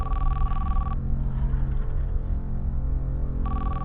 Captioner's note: ominous music; phone ringing